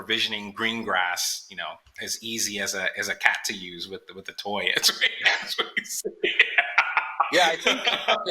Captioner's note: laughing